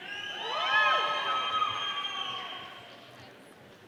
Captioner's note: audience cheering